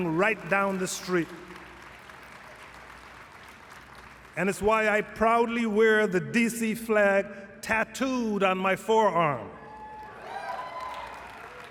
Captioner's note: applause